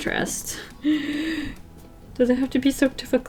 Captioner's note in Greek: Βαθιά εισπνοή